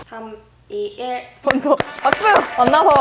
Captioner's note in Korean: 힘찬 박수와 함께 시작